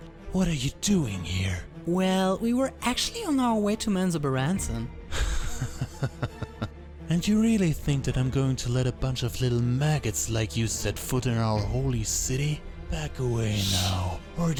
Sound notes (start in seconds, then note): 5.1 Drow Elite soldier laughs